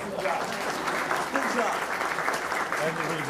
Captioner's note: applause